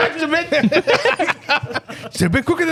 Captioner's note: laughing